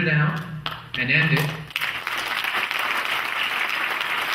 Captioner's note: clapping